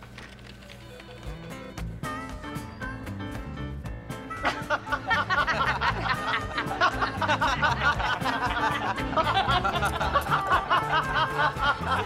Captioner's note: country music; laughter